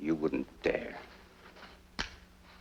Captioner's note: click